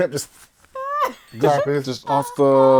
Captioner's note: laughter